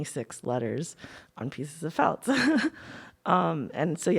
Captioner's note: laughs